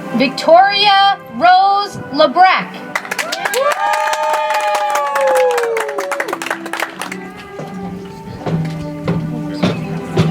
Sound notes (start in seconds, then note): 6.6 audience applauds